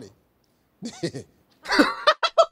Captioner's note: Steve laughing; laughing